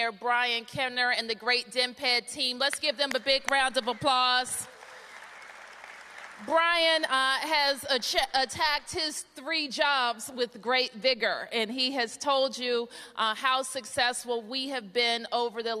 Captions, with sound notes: BRIAN KENNER AND THE GREAT DMPED TEAM. LET'S GIVE THEM A BIG ROUND OF APPLAUSE. [APPLAUSE] BRIAN HAS ATTACKED HIS THREE JOBS WITH GREAT VIGOR. AND HE HAS TOLD YOU HOW SUCCESSFUL WE HAVE BEEN OVER THE